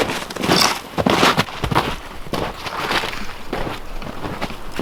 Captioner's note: snow crunching